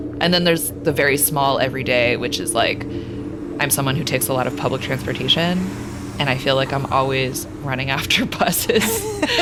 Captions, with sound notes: And then, there's the very small every day, which is like, I'm someone who takes a lot of public transportation. (train whishing) And I feel like I'm always running after (laughing) buses.